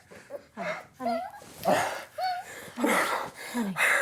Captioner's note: dog whining; Chris gasping